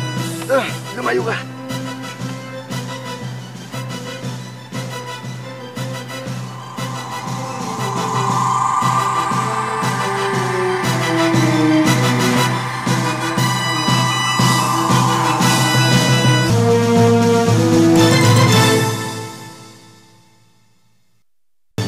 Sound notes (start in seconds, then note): 7.8 whirring; 12.2 exhales